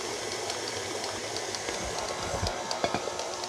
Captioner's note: mixer whirs